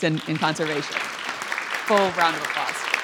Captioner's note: audience applauds